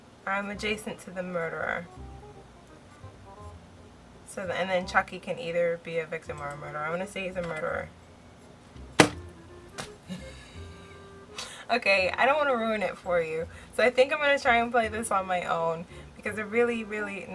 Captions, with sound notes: "I'm adjacent to the murderer" so...and then chucky can either be a victim or a murder I'm gonna say he's a murderer (slams mouse) (laughs) okay I don't wanna ruin it for you so I think I'm gonna try and play this on my own because I really really